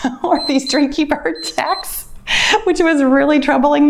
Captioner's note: timer beeps